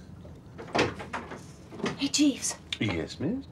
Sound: door opens

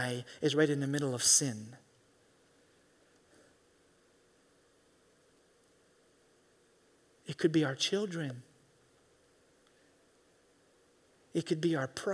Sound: in English

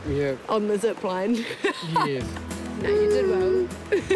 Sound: laughs; laughs

